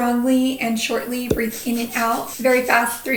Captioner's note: breathes rapidly